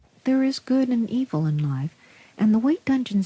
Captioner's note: over Radio